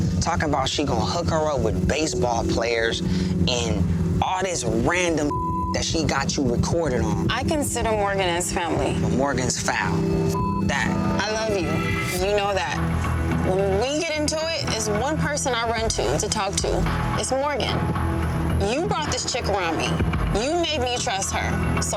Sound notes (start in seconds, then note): 5.3 beep; 9.9 beep